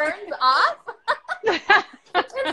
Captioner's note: both laughing